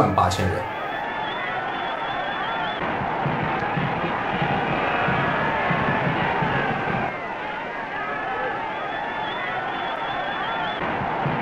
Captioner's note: cheers and applause